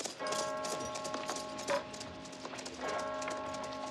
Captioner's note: CLOCK CHIMlNG